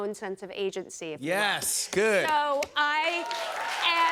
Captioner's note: cheers and applause